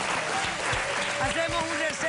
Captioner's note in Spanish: Aplausos